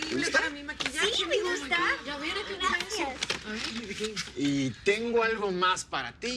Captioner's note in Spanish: Hablan al unísono